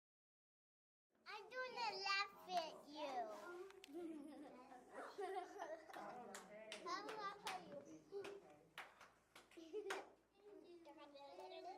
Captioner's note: sounds of children in the classroom